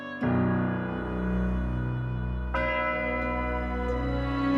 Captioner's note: bell tolling